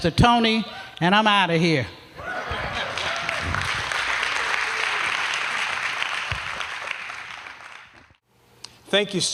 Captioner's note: applause